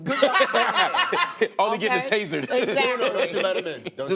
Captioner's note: laughter